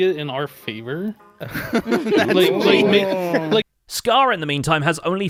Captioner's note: group laughs nervously